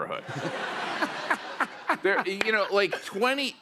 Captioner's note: laughter